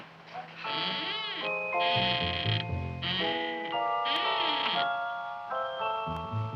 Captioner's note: placid music; Audrey Jr. Squeaking